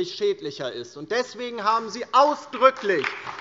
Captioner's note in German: Beifall DIE LINKE